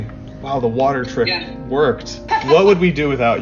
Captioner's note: laughs